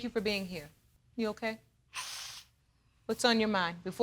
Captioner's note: sniffles